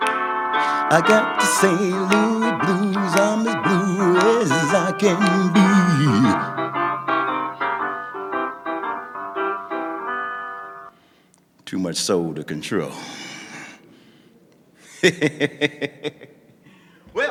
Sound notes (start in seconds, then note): 14.4 laughing